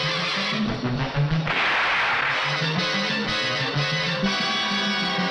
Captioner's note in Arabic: اطلاق النار بالبندقية